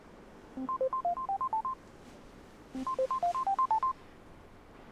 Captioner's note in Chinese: 來電鈴聲